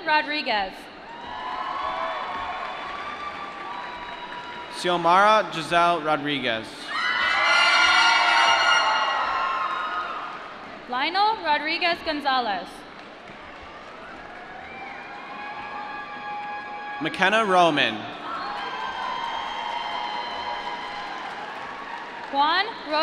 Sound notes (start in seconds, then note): 1.0 applause; 7.3 applause; 13.4 applause; 19.0 applause